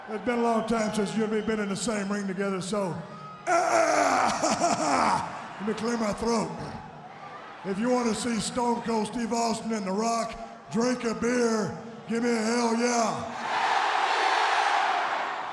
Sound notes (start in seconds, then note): 3.1 clears throats